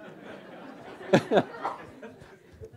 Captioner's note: laughter